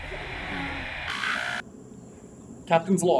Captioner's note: static